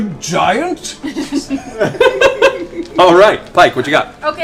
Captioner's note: laughs